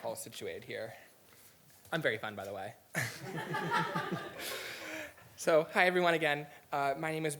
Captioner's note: laughter